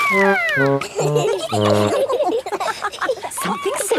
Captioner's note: all laughing